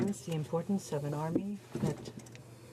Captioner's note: speaking French